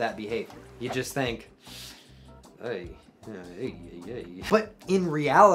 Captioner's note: sucks air through teeth